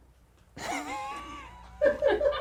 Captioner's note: laughs; crew laughs